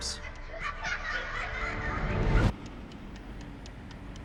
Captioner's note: children laughs